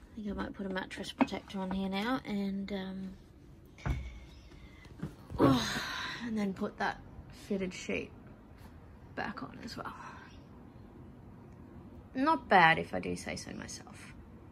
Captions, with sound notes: Think I might put a mattress protector on here now and, um, [sighs] and then put that fitted sheet back on as well. Not bad, if I do say so myself.